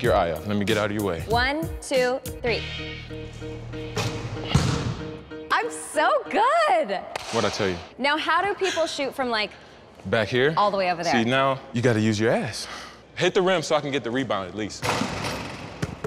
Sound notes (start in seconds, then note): 4.4 ball bouncing; 7.1 slap